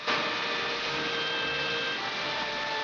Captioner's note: machinery